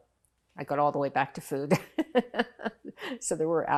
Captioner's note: laughing